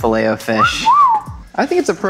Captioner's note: wolf whistling